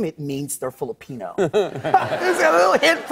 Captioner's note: laughter